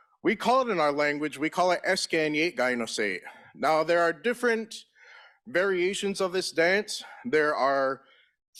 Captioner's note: in Native language